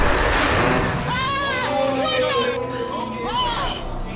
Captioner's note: screaming